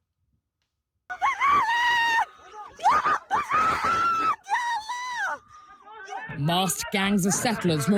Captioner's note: screaming